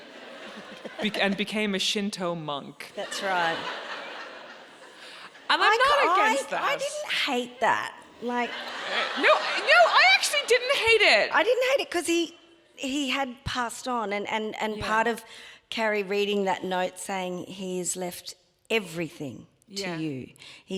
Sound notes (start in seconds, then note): 0.0 audience laughs; 2.9 audience laughing; 8.0 audience laughs